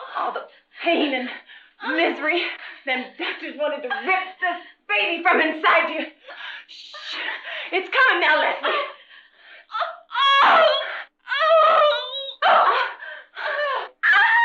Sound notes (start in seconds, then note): 3.9 laughter; 9.7 screaming